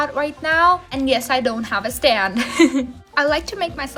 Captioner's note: giggles in pain